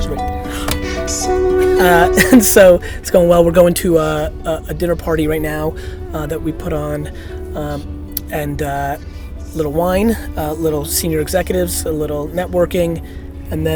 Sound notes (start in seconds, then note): 0.1 laughs; 0.4 gasps; 1.5 voiceover